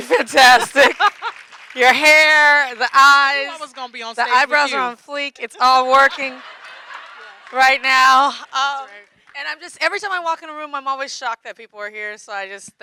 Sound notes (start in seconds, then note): 0.0 audience clapping; 5.7 audience clapping and laughing